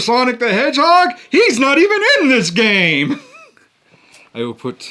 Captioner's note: laughs